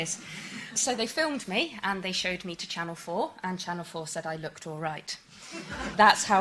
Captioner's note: laughter